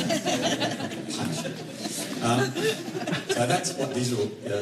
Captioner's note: laughter